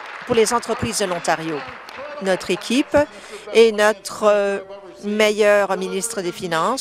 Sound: applause

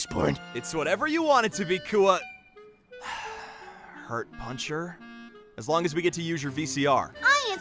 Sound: sigh

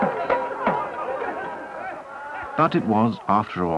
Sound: audience reaction

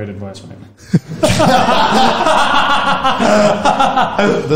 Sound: group laughs

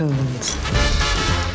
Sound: glasses clink

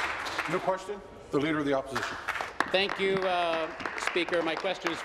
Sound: applause

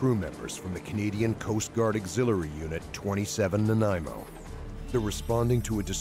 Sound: voiceover

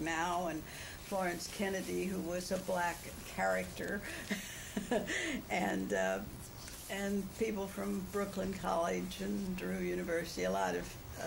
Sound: laughs

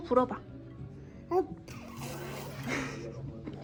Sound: spitting sounds lol

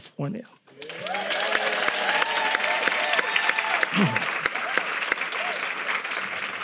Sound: audience applauding; audience cheering

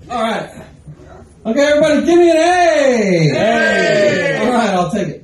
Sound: crowd- A!

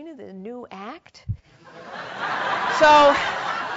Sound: laugh

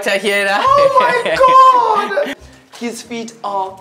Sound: guide laughing

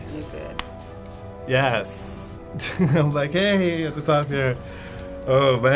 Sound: laughing

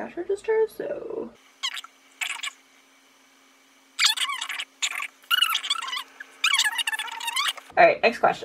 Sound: random sped up babbling

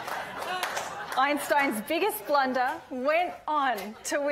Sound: audience laughing

